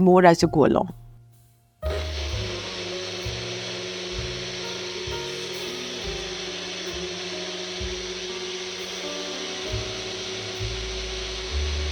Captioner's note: the sound of the blender running